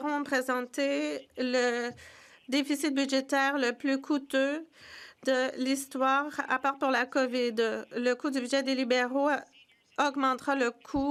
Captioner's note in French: voix de l'interprète